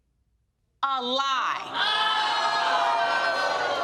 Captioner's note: crowd exclaiming